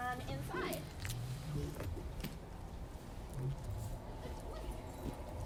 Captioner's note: lion growls